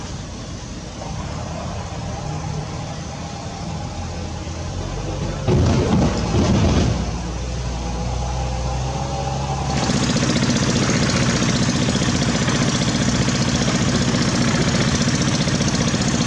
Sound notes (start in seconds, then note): 9.1 diesel Engine Sound